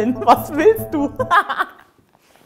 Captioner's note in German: Sie lacht